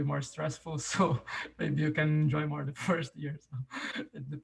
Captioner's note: chuckles